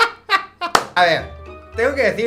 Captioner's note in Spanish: clap